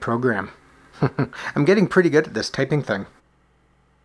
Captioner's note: chuckles